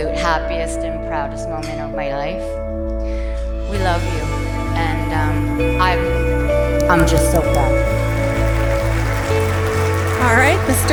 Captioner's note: clapping